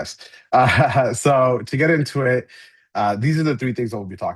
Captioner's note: laughs